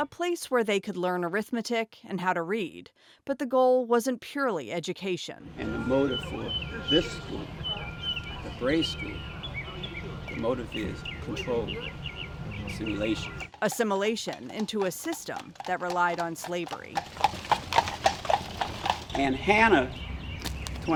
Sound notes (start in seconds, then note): 17.0 horses clacking